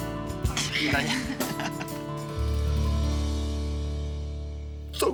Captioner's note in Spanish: Risas